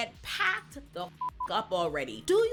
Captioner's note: beep